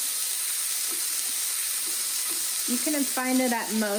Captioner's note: sizzling